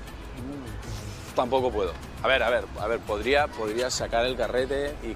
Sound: sighs

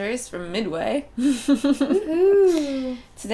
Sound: laughter

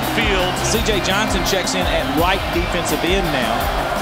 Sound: voiceover

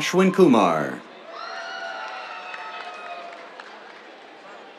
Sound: cheers, applause

